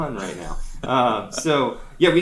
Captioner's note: laughs